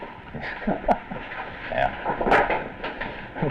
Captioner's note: chuckles